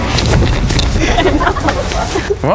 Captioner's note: laughing